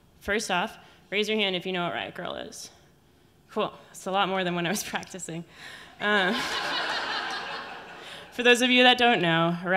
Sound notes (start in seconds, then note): 6.2 audience laughing